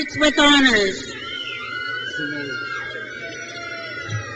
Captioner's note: crowd cheers